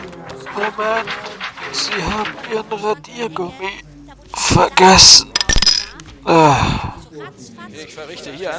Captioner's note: groan